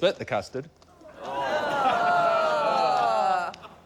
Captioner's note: audience groans